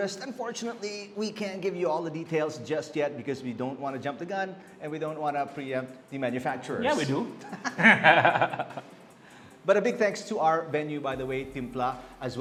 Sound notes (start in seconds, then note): 7.4 laughs